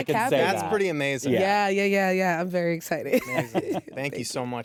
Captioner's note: chuckles